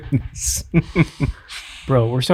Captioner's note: chuckling